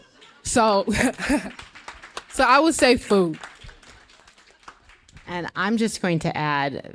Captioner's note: applause